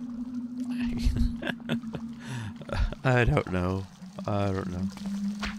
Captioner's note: laughs